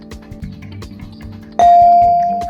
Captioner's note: bell dings